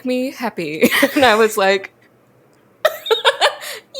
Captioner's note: both laugh; both laugh; laughs